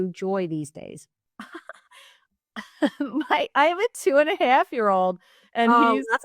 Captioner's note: giggles